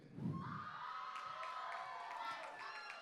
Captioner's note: applause